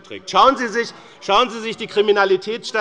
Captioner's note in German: Zurufe von der SPD